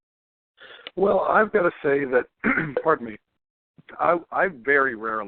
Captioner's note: cough